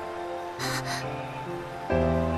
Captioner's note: gasp